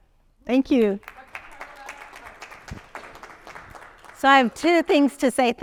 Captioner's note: audience clapping